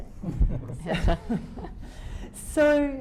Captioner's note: chuckling